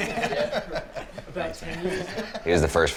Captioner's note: laughing